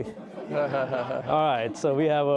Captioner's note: all laughing